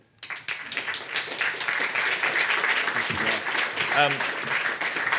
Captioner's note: audience applauding